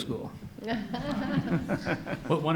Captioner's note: audience laughs